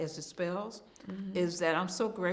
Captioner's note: hums in agreement